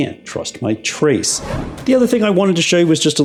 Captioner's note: whooshing